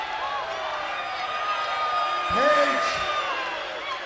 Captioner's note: crowd cheering